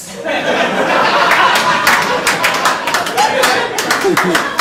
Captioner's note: audience laughing